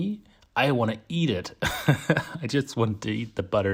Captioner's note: laughs